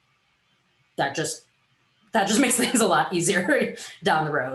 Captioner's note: laughs